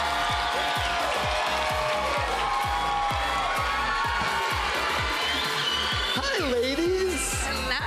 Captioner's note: cheers and applause